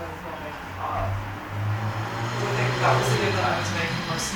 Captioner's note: car engine revving